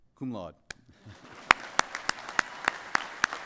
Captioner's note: applause